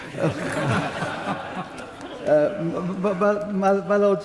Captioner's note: laughter